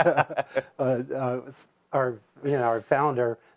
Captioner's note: laughs